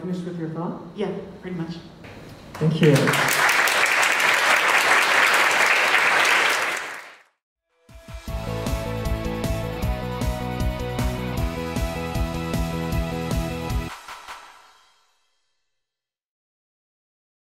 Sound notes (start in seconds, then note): 1.4 voiceover; 5.0 applause; 7.8 upbeat instrumental music